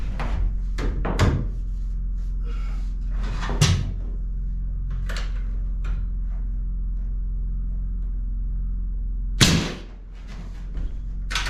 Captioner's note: hammer thudding